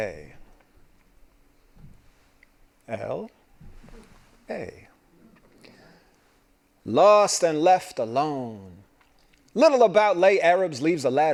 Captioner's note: laughing